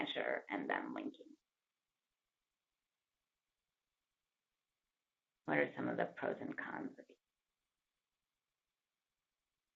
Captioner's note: pause